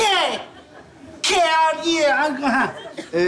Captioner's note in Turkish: İngilizce bir şey demeye çalışır